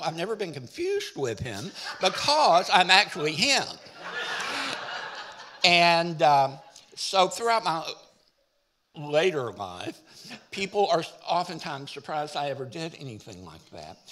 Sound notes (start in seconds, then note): 3.8 audience laughing